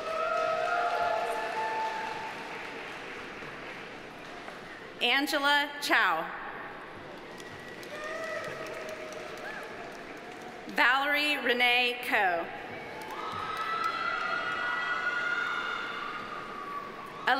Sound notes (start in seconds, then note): 0.0 audience cheering; 0.0 audience applauding; 7.2 audience applauding; 12.9 audience applauding; 12.9 audience cheering